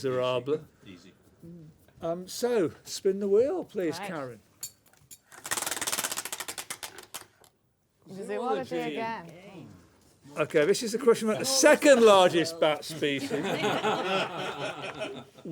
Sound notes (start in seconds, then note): 5.2 ratcheting; 12.9 laughter